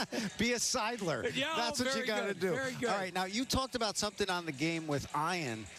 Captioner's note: laughter